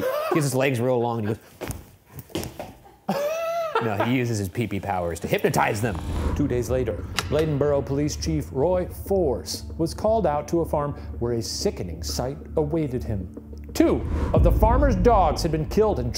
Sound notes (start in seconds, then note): 2.2 feet thumping; 2.9 chuckling